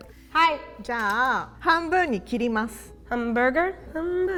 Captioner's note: speaking in Japanese